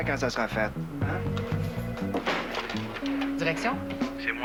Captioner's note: Téléphone